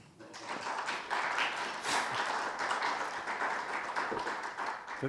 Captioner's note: audience applauding